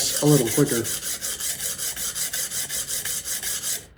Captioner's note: drill whirring